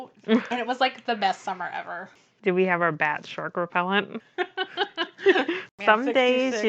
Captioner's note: laughs